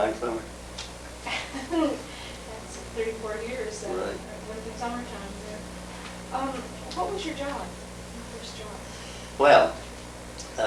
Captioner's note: laughs